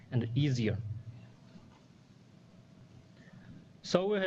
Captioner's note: pause